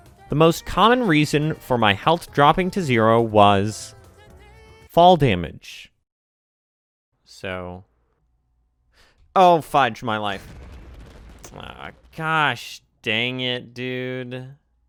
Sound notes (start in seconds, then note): 4.8 silence; 8.9 inhale